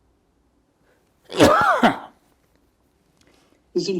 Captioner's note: coughing